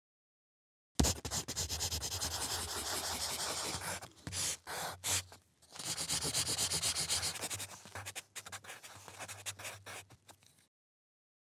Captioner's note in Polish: odgłos szkicowania na papierze